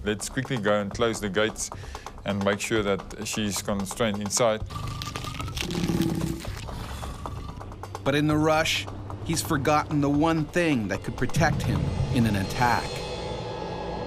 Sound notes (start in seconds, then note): 8.3 voiceover